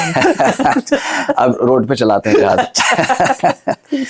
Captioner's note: laughs